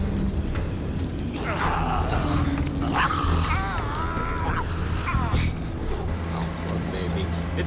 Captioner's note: Rick grunts; Rick yelling; cougar growls and snarls